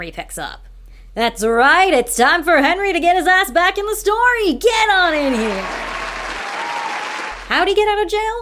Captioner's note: applause